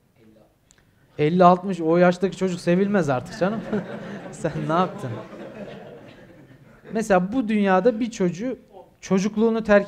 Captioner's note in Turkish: Salonda gülüşmeler